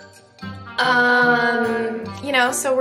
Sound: audio distortion

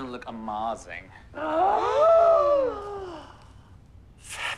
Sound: gasp

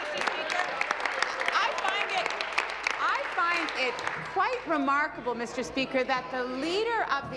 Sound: applause

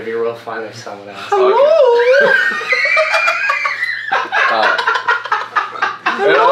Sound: laughter

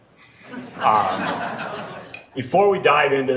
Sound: laughing

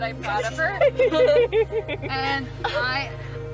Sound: incessant giggling

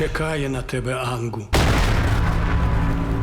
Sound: crumbling explosion; unsettling music playing

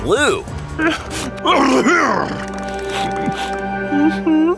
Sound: shivering and sneezing

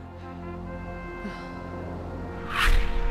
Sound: sigh

